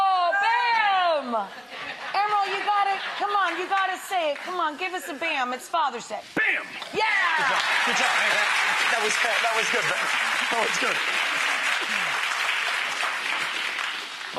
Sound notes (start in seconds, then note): 1.3 audience laughs; 8.3 Rachael and crowd cheering